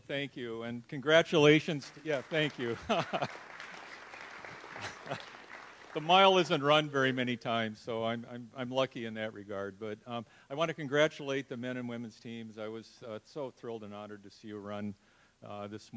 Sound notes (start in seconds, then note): 1.8 audience applauds; 2.4 chuckles